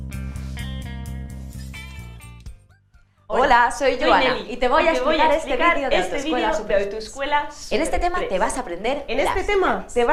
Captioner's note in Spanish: Hablan las dos a la vez, diciendo lo mismo